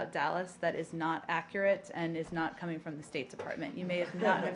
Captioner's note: laughter